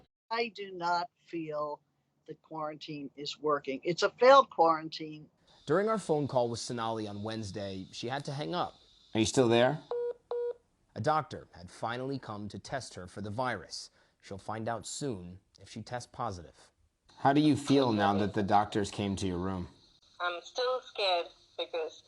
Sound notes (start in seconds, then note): 9.9 beeping